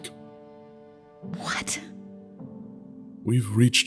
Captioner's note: surprised